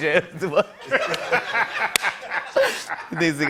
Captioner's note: laughter